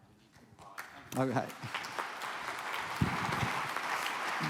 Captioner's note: applause